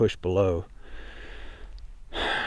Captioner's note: deep breath